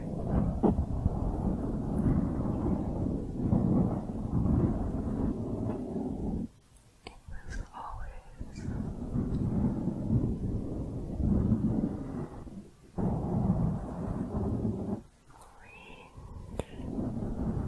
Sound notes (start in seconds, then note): 0.0 dense mic scratching; 9.1 mic scratching; 17.4 mic scratching